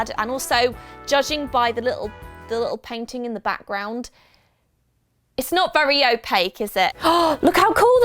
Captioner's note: gasp